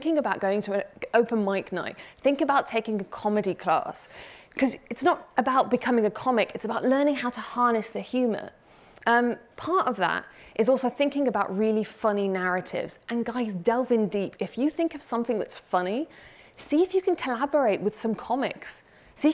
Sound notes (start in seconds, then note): none